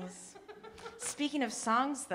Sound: audience laughing

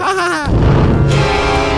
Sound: giggles; spooky music

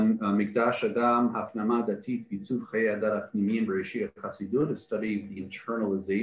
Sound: Hebrew

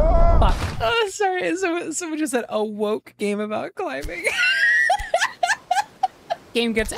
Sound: laughter

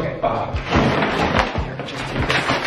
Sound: loud rustling

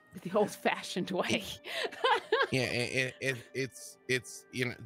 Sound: laughs

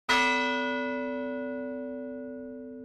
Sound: bell ringing

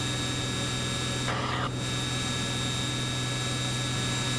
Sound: plane engine buzzing

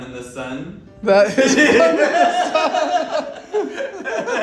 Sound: laughs

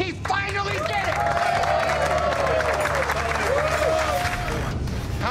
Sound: cheers

